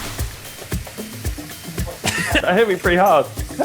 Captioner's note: coughing